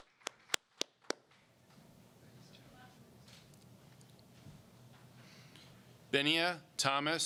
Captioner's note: applause